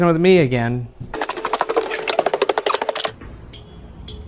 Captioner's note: tape fast-forwarding; eerie pensive music